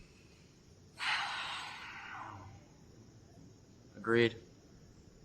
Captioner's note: sighs